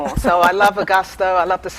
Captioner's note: laughter